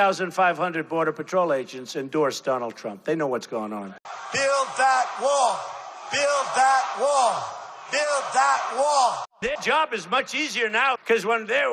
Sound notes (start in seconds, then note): 6.1 crowd cheering